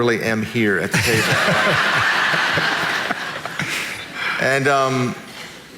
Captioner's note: audience laughing